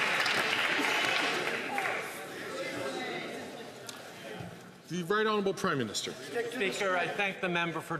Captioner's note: some Applause